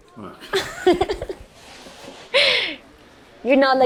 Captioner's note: Giuliana laughs